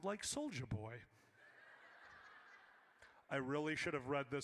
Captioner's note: audience laughs